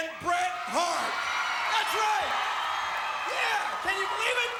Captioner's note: crowd cheers